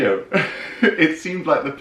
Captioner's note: laughing